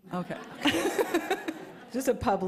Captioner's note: laughter